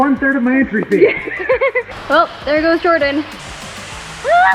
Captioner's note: laughs